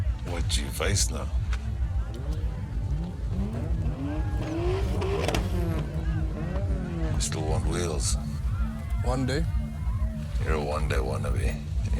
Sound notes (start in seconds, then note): 2.6 car revs in the background